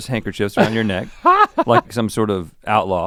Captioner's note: Link chuckles